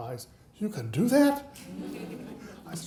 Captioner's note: audience laughing